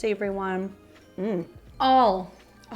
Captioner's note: moans